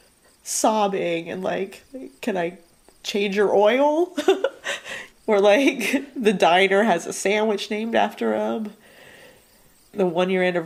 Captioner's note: laughs